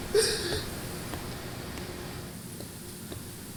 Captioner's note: crying